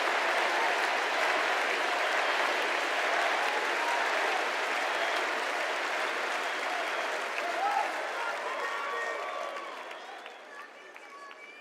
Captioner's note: cheers and applause; crowd chanting